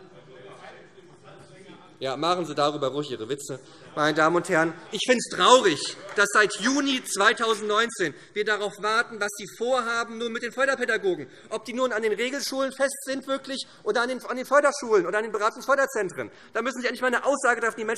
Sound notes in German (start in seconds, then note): 3.6 Beifall SPD